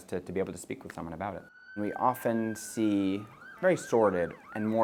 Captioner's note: siren blaring